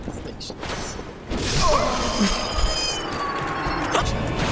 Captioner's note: muffled screaming >x<